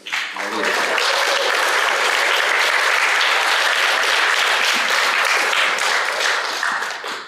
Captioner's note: applause